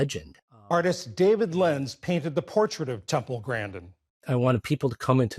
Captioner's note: voice-over